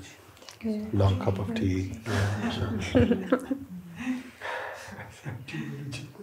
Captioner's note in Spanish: risas